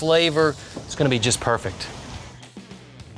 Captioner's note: flame flickering